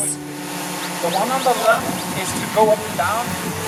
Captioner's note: drone buzzing